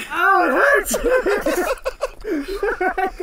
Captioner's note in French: laughter